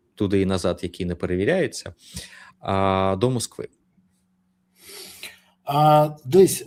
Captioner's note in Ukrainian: сопіння